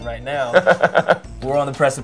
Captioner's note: laughs